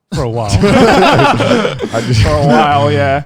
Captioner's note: all laughing